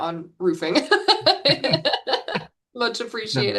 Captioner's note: laughs